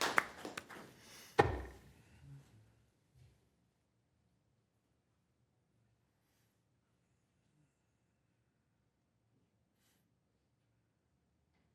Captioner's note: applause